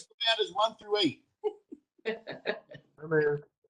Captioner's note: laughter